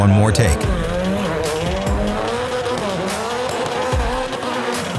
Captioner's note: car revving